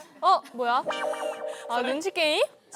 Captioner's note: the teleprompter turns on